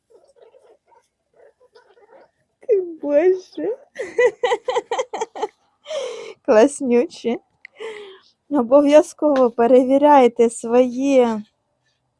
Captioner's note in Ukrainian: сміх